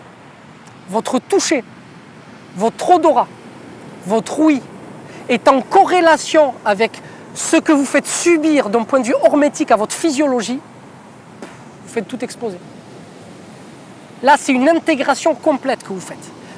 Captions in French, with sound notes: votre touché, votre odorat, votre ouïe est en corrélation avec ce que vous faites subir d'un point de vue hormétique à votre physiologie, [boom] vous faites tout exploser. C’est une intégration complète que vous faites.